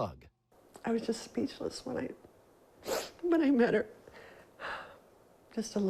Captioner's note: sobs